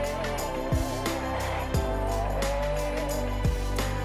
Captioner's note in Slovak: Potlesk